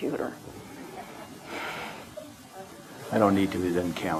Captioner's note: audience laughter